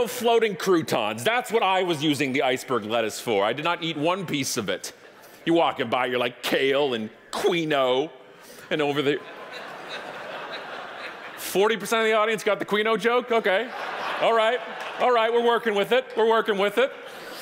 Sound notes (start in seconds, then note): 10.4 audience laughing; 13.3 audience laughing